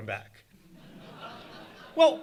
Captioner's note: audience laughing